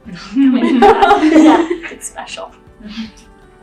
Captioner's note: team laughing